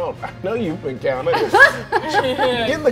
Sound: players laughing

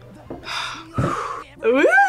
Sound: both sigh

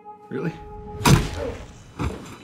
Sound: crack!

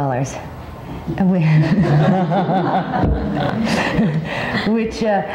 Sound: audience laughing

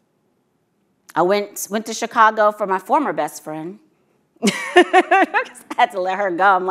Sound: laughs

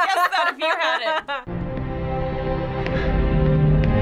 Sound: boy gasps; orchestral music

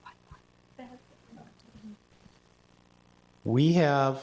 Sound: people murmuring

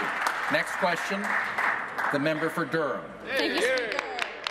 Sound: applause

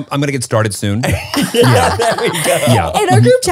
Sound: everyone laughs

